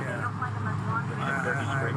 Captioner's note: radio chatter